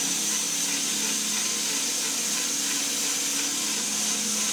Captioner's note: saw buzzing continues